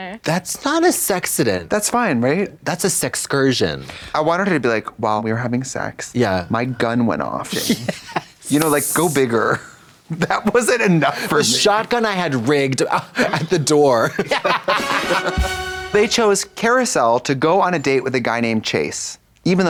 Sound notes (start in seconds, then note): 8.4 Katya hisses; 14.0 blonde Women giggle; 14.6 upbeat music